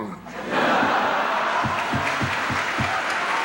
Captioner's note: laughter; applause